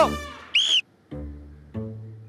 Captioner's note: Blowing whistle